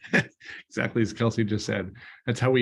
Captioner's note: laughter